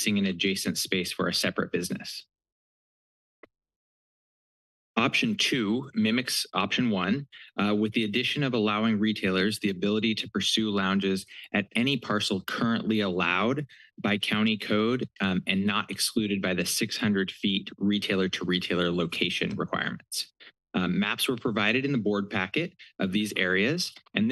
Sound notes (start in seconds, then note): 2.4 pause